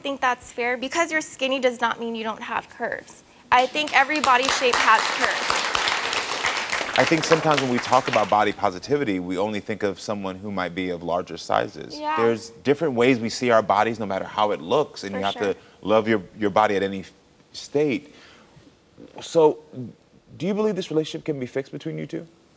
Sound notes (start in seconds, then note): 3.8 audience applauds